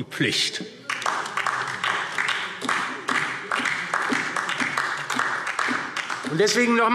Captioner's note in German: Beifall DIE LINKE und vereinzelt SPD